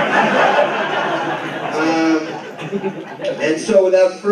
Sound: laughter

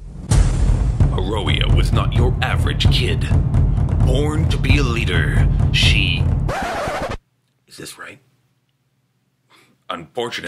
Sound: remix sound effect

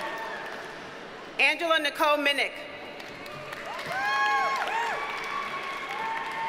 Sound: audience cheers and applauds

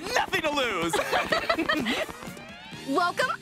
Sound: laughing

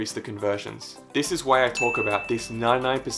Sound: beep

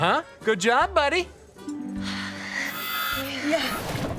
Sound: sighing

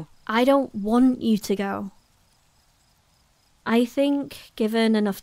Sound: none

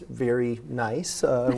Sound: laughter

